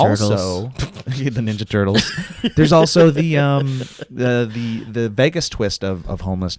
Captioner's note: laughs